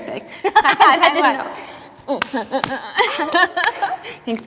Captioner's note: both laughing